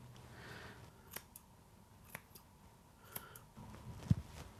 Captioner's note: scissors snipping